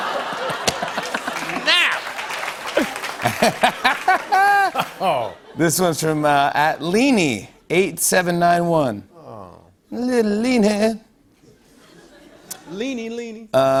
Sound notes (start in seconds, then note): 0.0 laughs; 11.6 laughter